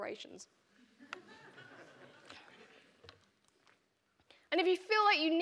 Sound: audience laughing

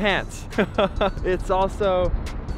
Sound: laughing

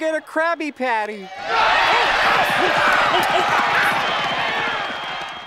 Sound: screaming

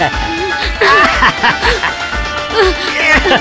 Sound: laughs

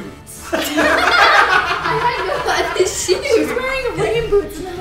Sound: laughing

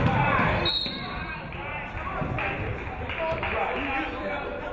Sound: referee whistles

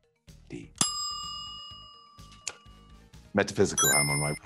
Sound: timer dings; chime rings

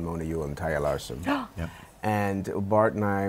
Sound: gasps

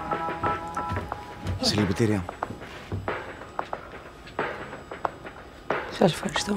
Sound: passenger speaking foreign language; Vanina speaking foreign language

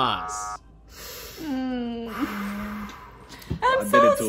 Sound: sighs

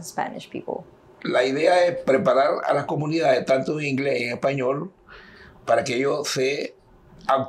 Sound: speaking in Spanish

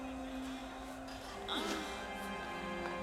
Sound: Willie moans

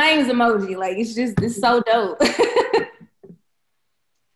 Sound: belly laughing

